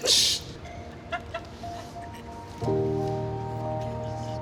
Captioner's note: laughing